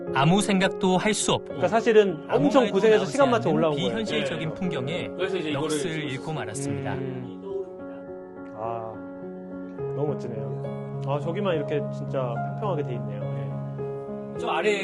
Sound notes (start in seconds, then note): 6.5 exclamation